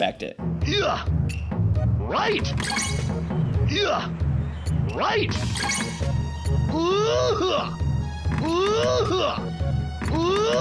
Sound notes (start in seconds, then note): 0.3 character grunting; 2.5 chiming sound effect; 3.9 character grunting; 5.4 chiming sound effect; 6.6 character grunting